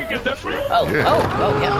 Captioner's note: straining